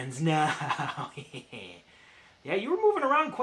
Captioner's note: chuckles ominously